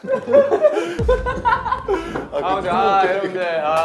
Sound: he bursts out laughing just thinking about it

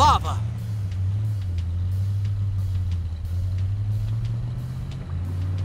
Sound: motor car whirring

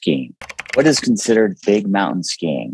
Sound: keyboard clicking

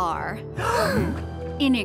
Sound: gasps

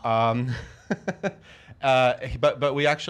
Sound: laughter

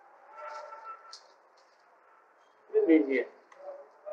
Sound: Hindi

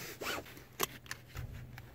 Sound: seatbelt click

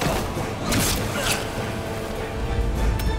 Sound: Kılıç sesi; Müzik - Vurmalılar ve yaylılar

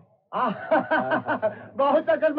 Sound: laughing

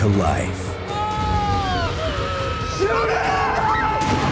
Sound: screaming

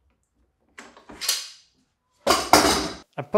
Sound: tools thudding

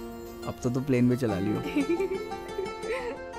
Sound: giggling

